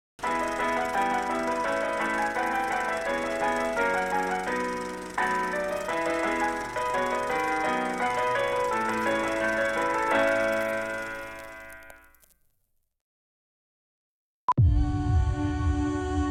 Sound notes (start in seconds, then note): 0.1 ragtime music; 11.8 silence; 14.5 gentle music